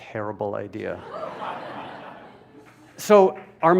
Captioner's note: laughter